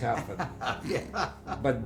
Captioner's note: laughing